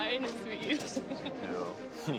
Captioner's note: chuckles